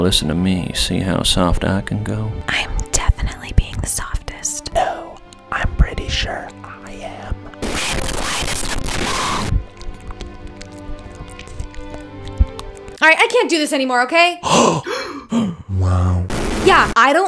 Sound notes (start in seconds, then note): 9.6 whispering; 14.4 gasping